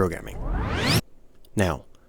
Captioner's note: record Scratch